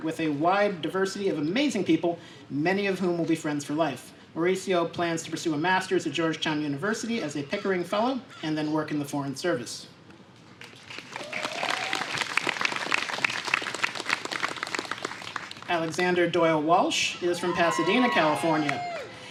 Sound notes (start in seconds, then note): 10.6 applause